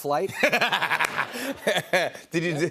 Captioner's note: laughs